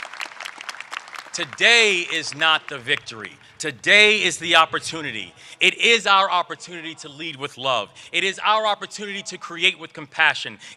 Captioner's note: applause